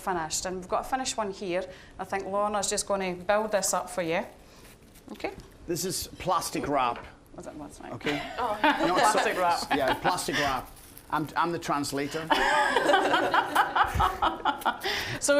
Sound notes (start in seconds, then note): 8.1 laughing; 12.1 all laughing